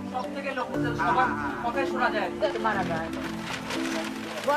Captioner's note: foreign language